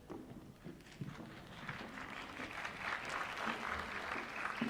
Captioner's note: applause